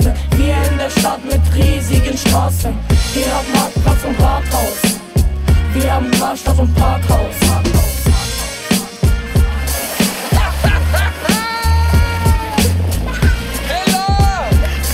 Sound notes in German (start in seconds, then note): 9.8 Wasserplatscher; 11.8 Stimme aus dem Off, lachend